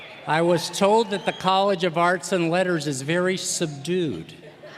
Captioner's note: cheers and applause